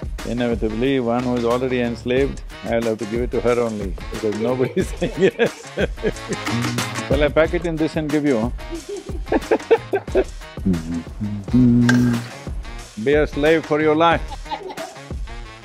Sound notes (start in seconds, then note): 4.1 laughs; 14.2 laughter